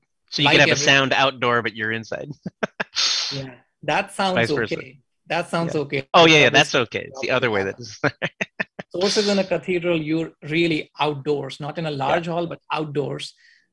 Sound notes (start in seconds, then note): 8.0 laughs